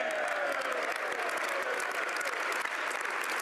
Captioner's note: applause